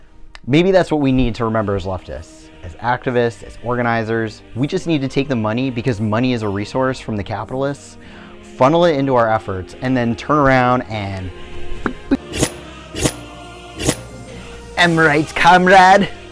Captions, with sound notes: Maybe that's what we need to remember as leftist, as activists, as organizers we just need to take the money, because money is a resource from the capitalists, funnel it into our efforts and then turn around and [slicing sounds] Am right, comrade?